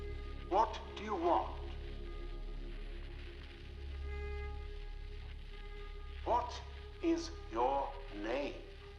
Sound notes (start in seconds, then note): 2.5 electricity crackling; 2.5 ominous music